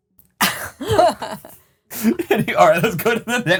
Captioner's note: group laughing